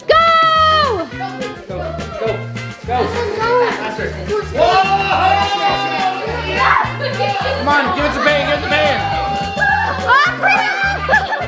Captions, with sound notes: - Go, go, faster. (cheering) Come On Give It To Payton, give It To Payton.